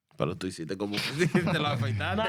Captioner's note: speaking In Spanish